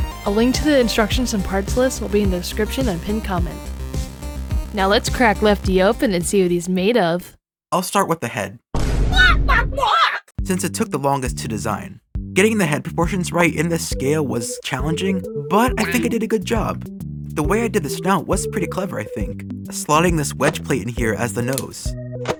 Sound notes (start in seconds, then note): 8.7 boom; 9.2 squawks